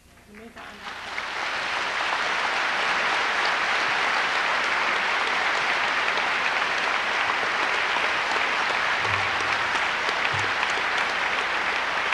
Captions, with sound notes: In the meantime. (audience applauds loudly)